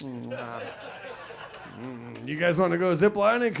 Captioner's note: audience laughs